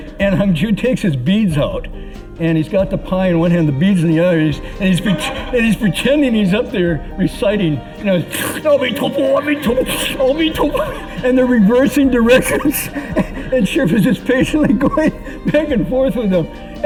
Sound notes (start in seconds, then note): 8.1 slurrrp